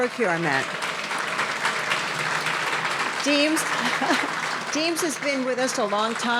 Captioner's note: audience applauding